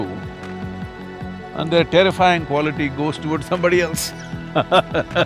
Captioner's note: laughs